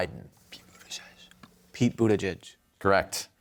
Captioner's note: whispering